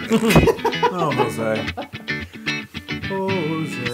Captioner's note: laugh